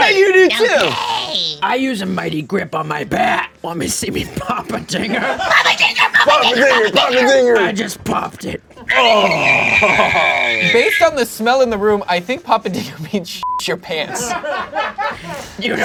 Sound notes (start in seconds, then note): 5.5 screeches; 8.8 screams; 14.0 audience laughing